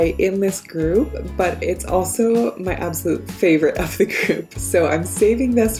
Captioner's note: chuckles